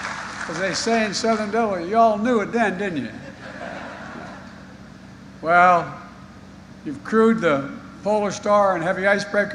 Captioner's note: applause